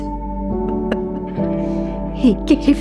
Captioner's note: laughing